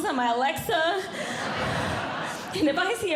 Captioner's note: audience Laughing